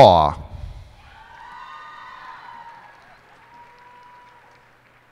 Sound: cheers and applause

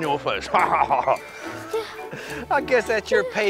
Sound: laughs

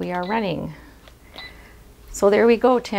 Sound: machine beeping

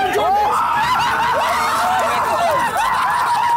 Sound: all cheering

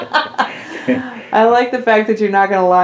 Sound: laughter

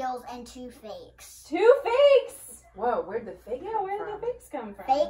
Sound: incredulously

